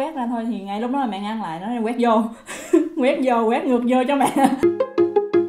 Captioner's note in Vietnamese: Cười